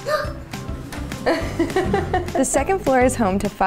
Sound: laughter

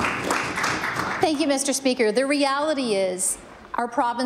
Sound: applause

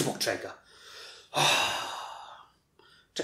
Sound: sigh

